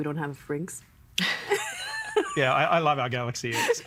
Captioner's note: all laughing